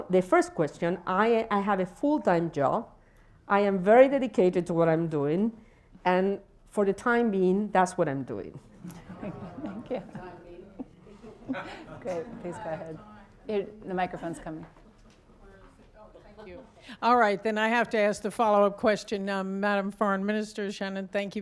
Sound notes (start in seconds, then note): 8.8 laughter